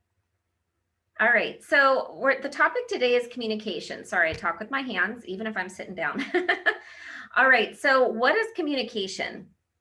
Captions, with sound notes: All right, so the topic today is communication. Sorry, I talk with my hands even if I'm sitting down (laughs). All right, so what is communication?